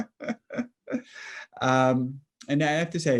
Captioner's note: laughing